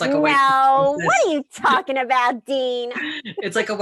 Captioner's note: laughs